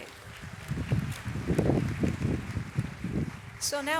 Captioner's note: audience applauds